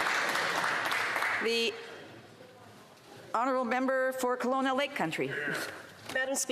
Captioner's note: some Applause